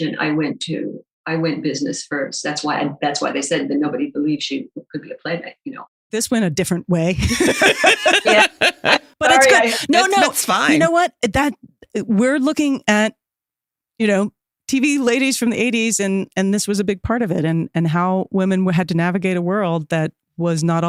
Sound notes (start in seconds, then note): 7.2 laughs